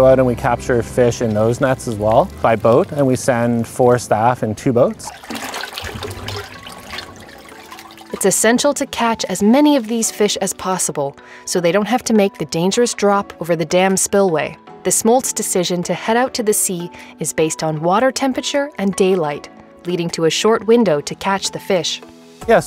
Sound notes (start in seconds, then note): 4.7 waster sloshing